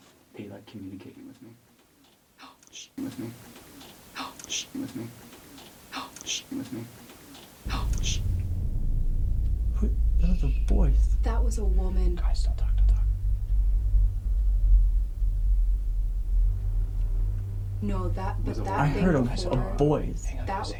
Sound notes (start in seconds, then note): 5.3 shushing; 14.6 suspenseful humming